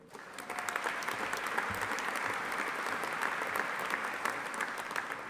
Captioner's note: audience applauding